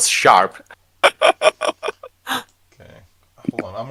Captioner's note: laughing